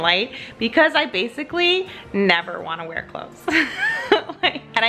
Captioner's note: laughs